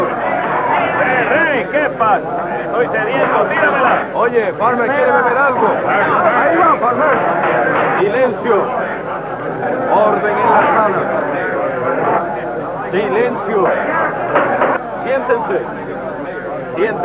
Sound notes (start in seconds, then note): 13.6 gavel pounding